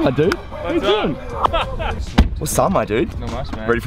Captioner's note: laughing